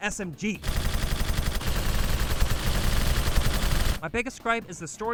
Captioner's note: gunshots in the background with lips just going to town